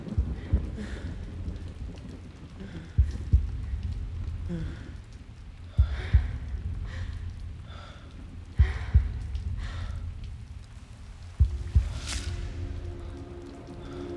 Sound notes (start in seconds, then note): 4.2 heartbeat pulsing; 6.2 woman panting